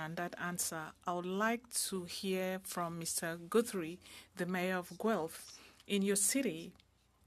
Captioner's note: speaking French